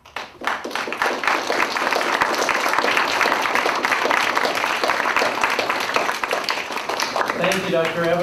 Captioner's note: applause